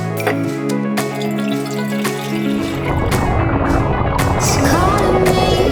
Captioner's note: water pouring into jar